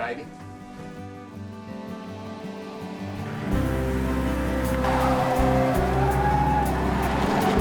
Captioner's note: gentle music; engine rumbling